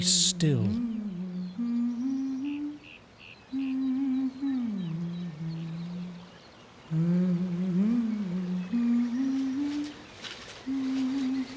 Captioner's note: woman humming